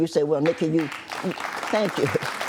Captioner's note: applause